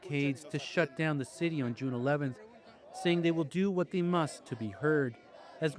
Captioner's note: chanting